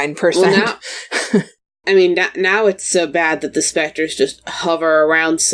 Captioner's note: laughs